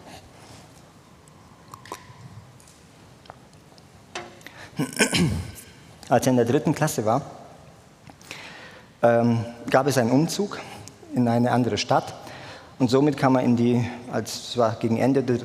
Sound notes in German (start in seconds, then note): 4.8 räuspern